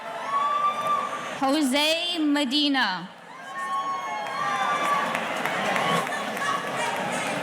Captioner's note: audience cheering